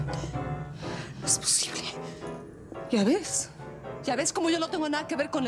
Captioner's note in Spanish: piano; respiración alterada